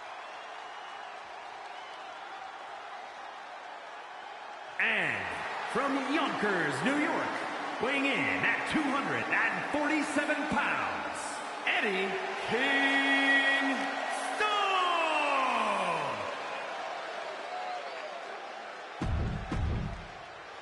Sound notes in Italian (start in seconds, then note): 14.1 urlo